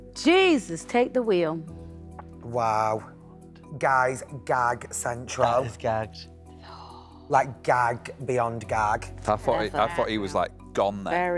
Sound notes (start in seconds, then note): 6.6 gasping